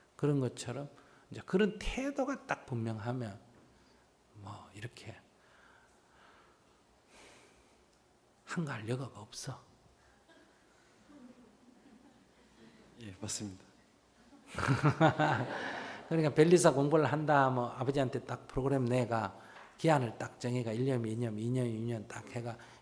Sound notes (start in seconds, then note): 14.2 laughter; 14.3 audience Laughter